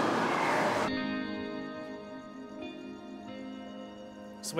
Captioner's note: crickets chirp; gentle music